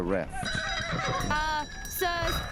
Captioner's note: horses neigh